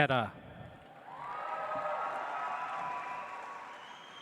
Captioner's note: audience applauds